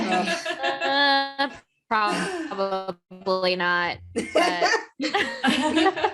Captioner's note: groans